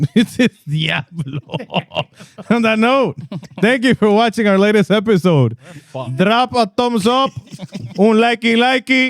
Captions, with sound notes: This is the app. (Laughing) On that note, thank you for watching our latest episode. Drop a thumbs up.